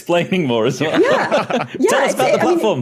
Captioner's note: laugh